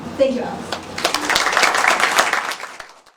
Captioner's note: applause